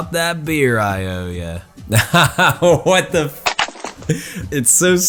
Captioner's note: laughs